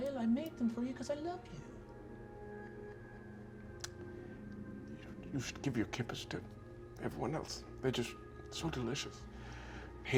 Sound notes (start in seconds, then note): none